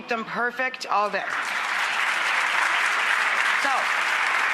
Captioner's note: audience applauds